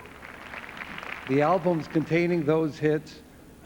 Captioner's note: applause